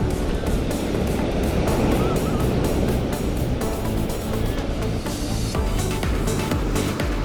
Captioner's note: haha